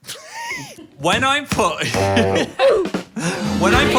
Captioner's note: laughs; horn honks; several sound effects play